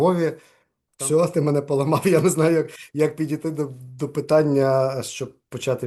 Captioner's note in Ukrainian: сміється